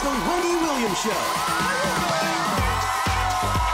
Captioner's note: audience cheering